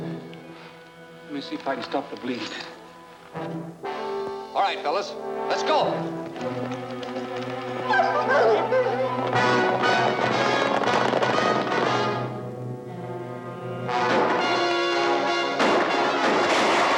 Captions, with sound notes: Lemme see if I can stop the bleeding. - All right, fellas, let's go. (dogs barking) (upbeat music) (guns firing)